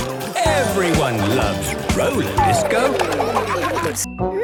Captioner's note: laughter